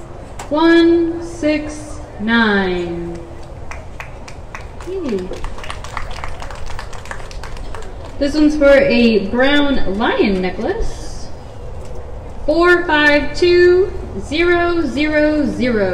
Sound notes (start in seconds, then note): 5.8 applause